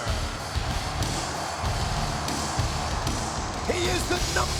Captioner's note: audience cheering and clapping